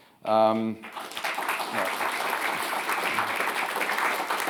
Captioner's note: audience applauding